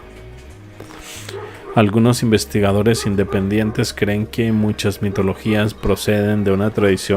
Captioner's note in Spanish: resoplido